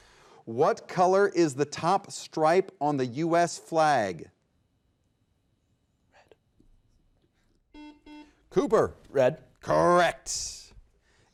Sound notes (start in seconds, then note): 5.3 whispers; 7.8 button beeping